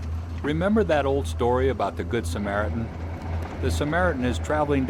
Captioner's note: voiceover